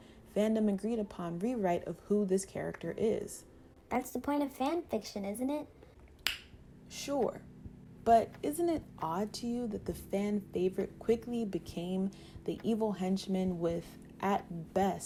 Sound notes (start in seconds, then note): 6.2 lip smack